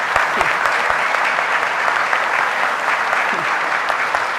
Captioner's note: audience applauding